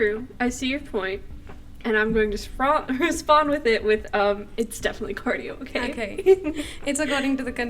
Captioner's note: laughter